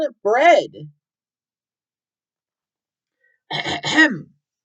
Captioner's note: ahem